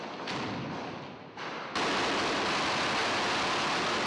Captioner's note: gunfire